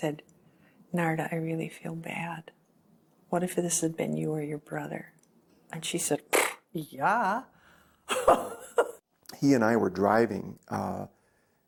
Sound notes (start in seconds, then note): 6.2 buzzes lips; 8.1 laughs